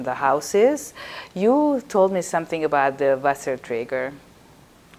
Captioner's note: yiddish